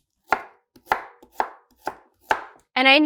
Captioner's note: knife chopping